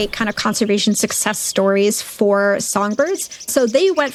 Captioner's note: birds chirping